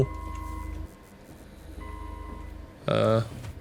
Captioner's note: alarms Going Off in the Background